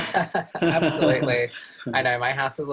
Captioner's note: laughs